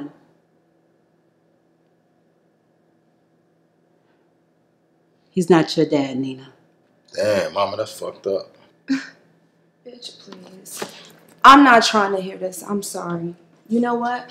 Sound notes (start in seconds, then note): 9.3 grunts quickly